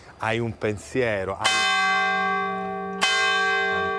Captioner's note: bell loudly tolling